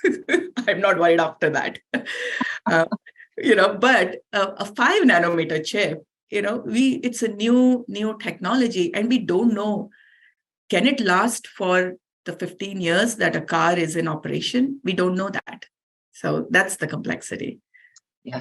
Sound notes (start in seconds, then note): 2.0 chuckles